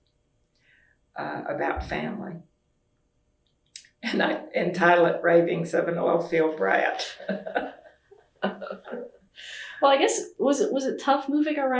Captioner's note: laughter